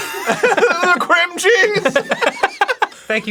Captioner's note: laughing